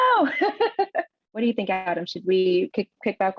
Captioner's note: laughs